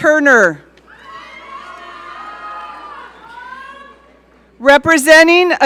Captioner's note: audience cheering